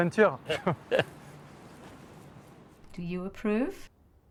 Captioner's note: group laughs